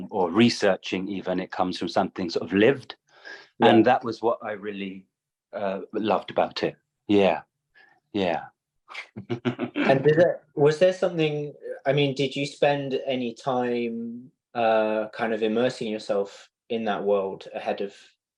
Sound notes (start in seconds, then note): 9.1 laugh